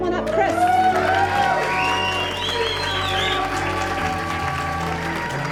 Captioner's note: whistles; clapping and cheers